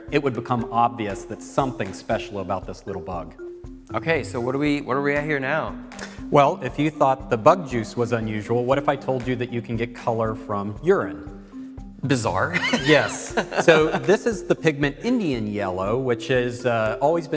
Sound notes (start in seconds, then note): 12.6 laugh